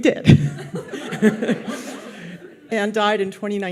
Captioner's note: audience laughs